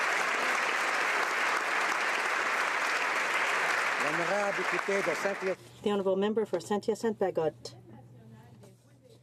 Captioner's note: applause